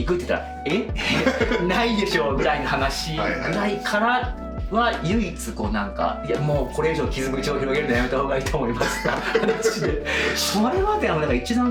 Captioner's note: laughs